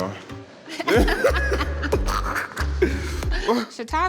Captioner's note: both laugh